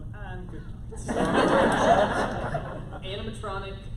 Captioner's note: laughter